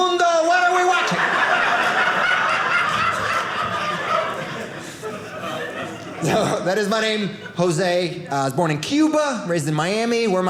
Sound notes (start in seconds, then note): 0.7 audience laughing